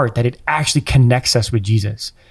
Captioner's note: none